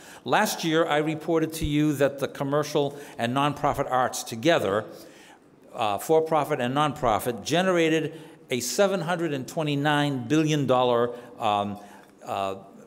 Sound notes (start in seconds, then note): none